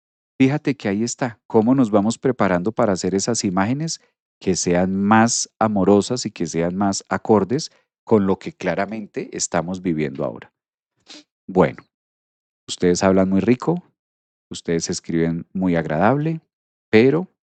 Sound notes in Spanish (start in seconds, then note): 11.0 resoplido